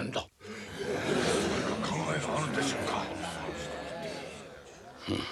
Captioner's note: murmurs